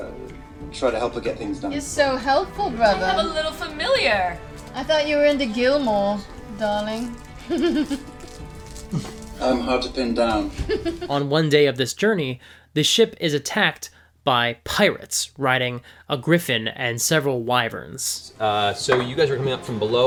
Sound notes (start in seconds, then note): 7.4 laughs